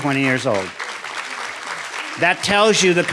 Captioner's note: audience applauding